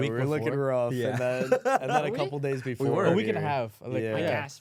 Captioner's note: laughs